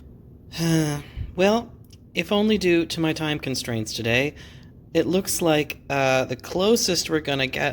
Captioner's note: sighs